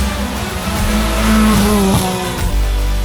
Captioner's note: engine roaring